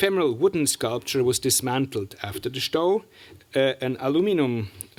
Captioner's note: german